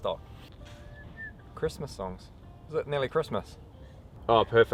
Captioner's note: whistling